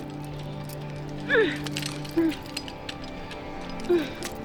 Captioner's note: grunts and groans